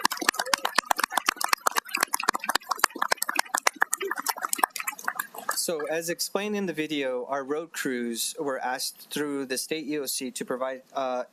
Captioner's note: applause